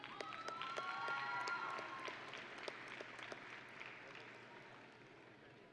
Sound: audience and graduates cheering

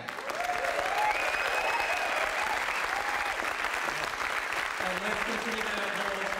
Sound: applause

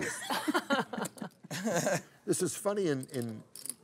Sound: laughter

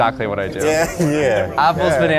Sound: crowd agreeing

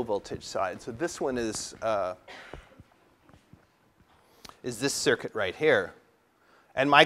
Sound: cough

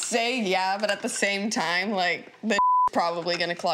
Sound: beeps

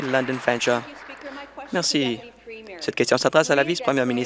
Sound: applause

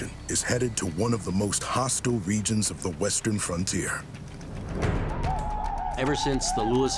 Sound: whooping sounds

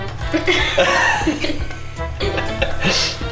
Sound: laughing

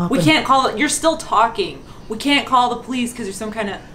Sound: none

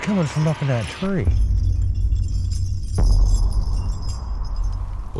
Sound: chain rattling

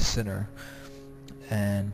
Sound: airplane flying overhead

